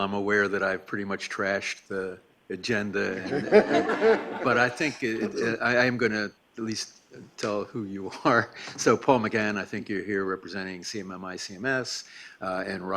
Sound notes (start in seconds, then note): 3.2 laughing